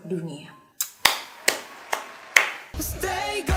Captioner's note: claping